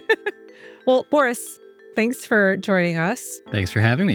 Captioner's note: laughs